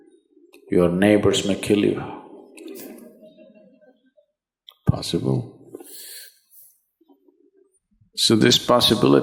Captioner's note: laughs